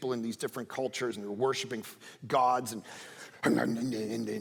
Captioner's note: speaking in tongues